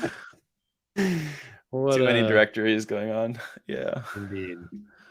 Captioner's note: laughs